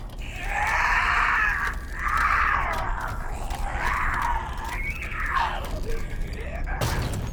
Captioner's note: strained screaming